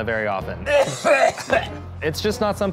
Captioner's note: coughing